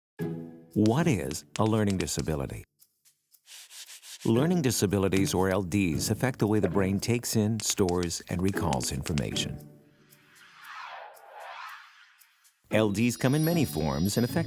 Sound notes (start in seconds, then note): 0.2 light upbeat music; 3.4 eraser erasing